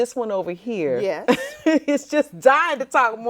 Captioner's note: laughs